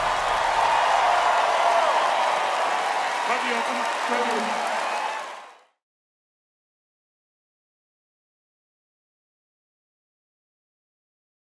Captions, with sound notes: (audience applause). Love you, Elton. Love you. (audience applause).